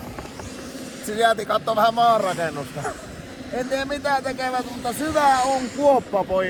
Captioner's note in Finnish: naurahtaa